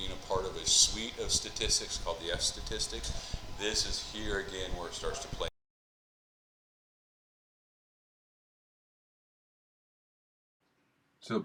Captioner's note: mic cuts out